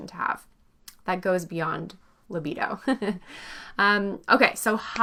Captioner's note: chuckles